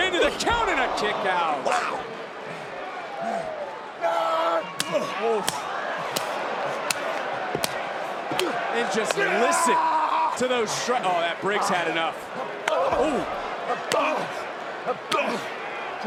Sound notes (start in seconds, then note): 4.7 hand smacks